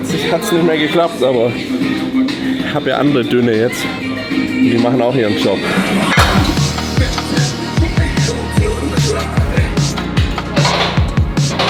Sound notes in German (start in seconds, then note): none